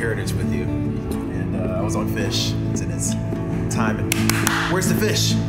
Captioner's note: clapping